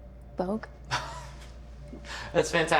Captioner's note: Tyler laughs